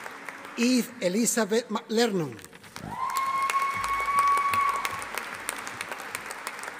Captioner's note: audience applauding